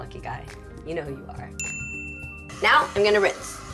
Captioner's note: tinkling bell